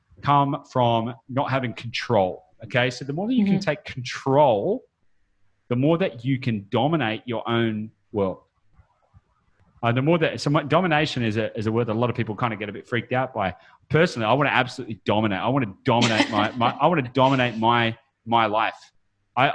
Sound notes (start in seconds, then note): 16.0 laughs